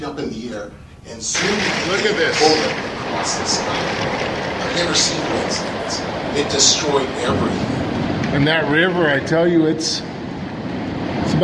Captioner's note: thunder sounds